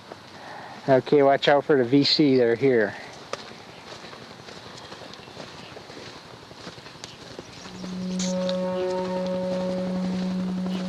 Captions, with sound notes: Okay, watch out for the VC that are here. (birds chirping) (dramatic ominous music)